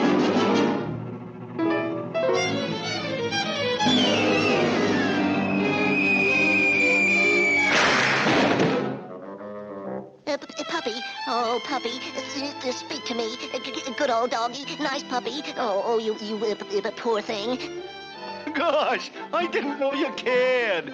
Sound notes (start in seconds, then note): 0.2 tense music; 5.5 air squealing; 7.7 body slams